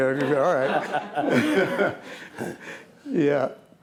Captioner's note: laughing